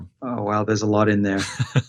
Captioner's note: laughs